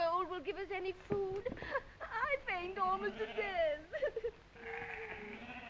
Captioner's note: sobbing